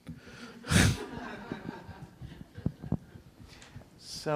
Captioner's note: laughter